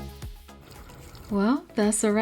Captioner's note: water Trickling